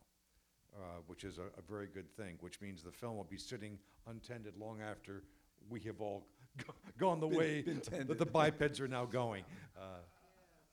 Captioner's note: laughs